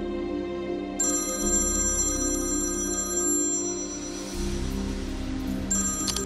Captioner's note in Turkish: Telefon Çalıyor